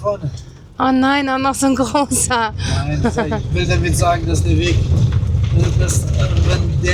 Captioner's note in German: gelächter